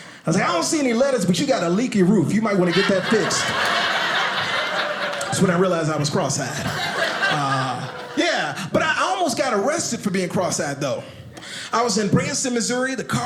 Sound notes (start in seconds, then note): 2.5 audience laughing